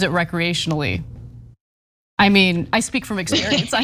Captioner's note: laugh